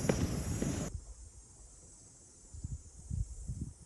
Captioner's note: sounds of nature